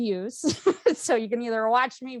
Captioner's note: chuckles